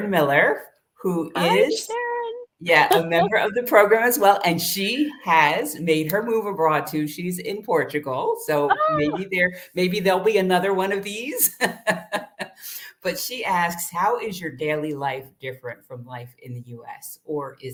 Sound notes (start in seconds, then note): 4.7 laughter